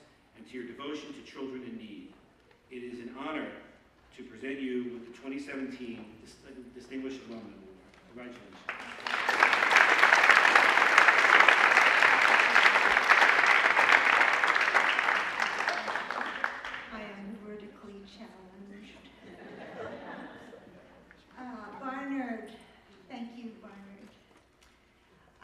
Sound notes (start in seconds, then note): 8.3 applause